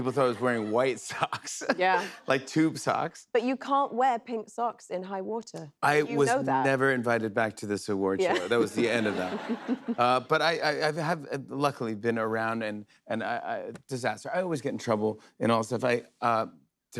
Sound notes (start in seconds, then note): 8.2 laughter